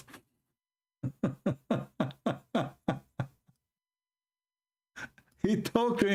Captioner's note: Ketawa